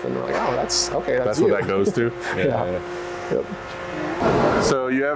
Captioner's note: giggles